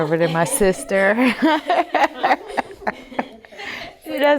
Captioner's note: laughter